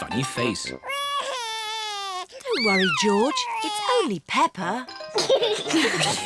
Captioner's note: cries; all laugh